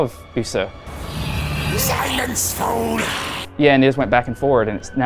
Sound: grunts

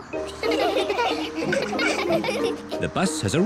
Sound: all giggle

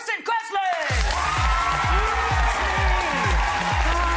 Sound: audience cheering

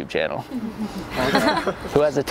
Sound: students chuckling

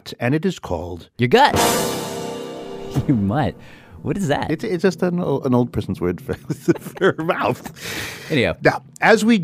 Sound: laughs

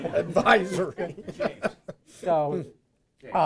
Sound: chuckles

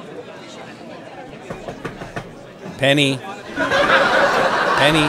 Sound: knocking; audience laughs

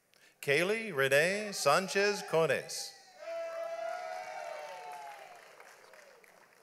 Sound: audience applauds

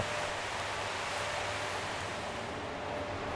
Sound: quiet roaring and whirring

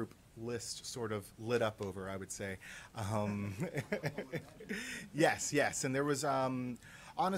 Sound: laughter

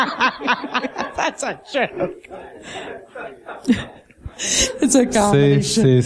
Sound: laughing

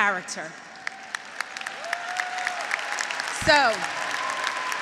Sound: graduates applauding; graduates cheering

